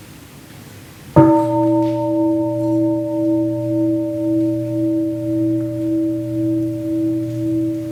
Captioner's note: gong